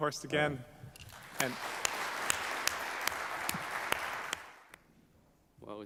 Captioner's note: applause